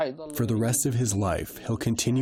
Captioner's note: through translator